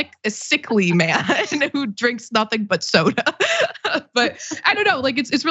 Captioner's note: laugh